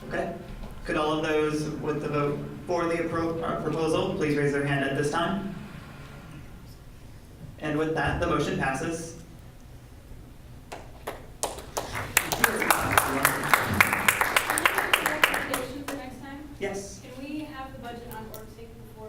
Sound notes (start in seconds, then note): 10.7 clapping